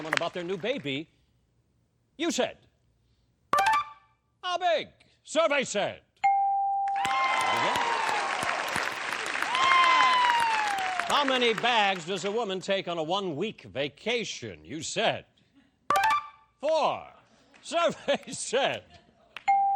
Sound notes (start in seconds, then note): 15.9 beeping